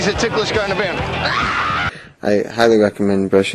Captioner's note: scream of agony